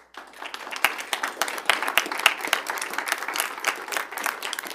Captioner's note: audience clapping